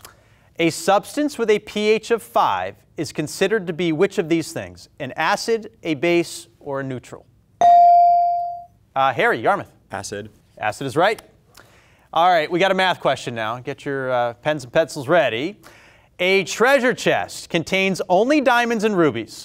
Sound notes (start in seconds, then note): 7.6 buzzer pings